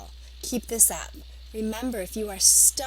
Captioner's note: Arabic